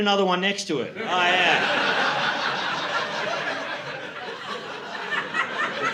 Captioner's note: laughter